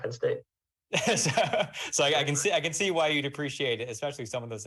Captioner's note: laughs